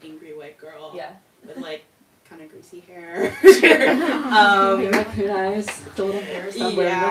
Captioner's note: laughter